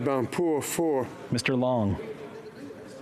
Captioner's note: speaking French